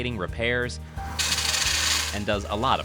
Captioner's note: saw grinding